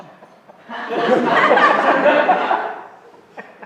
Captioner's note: laughter